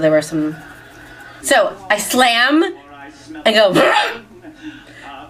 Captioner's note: grunts